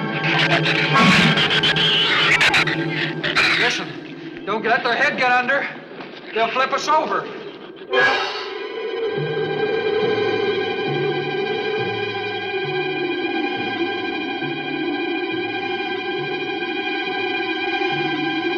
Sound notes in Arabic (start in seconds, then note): 0.2 صراخ الزبابة; 7.6 عواء الرياح; 7.6 موسيقى متوترة مستمرة